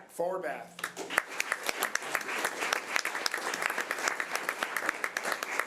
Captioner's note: audience applause